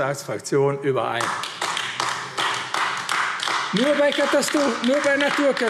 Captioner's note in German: Beifall AfD